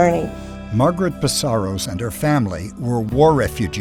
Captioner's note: voiceover